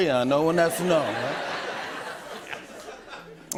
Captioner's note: laughter